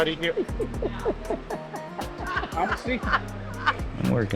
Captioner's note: group laughing